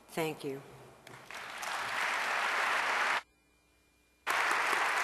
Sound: audience applause

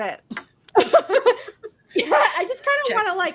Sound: laughter

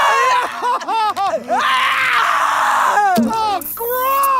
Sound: crying and screaming

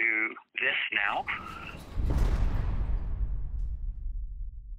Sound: door slamming

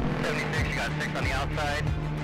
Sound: man On Radio

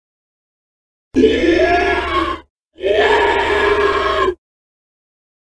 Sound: sound of monster

